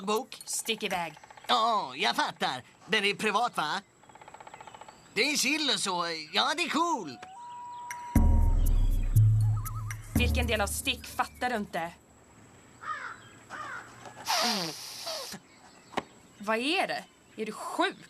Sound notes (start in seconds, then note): 14.2 sniffs